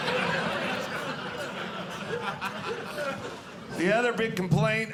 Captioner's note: audience laughing